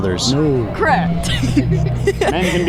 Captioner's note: laughs